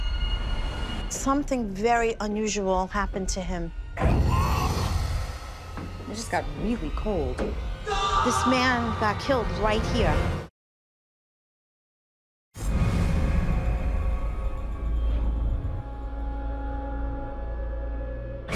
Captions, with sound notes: Something very unusual happened to him. [growling] I just got really cold. [shouting] This man got killed right here. [dramatic music]